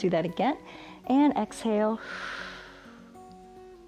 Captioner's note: exhales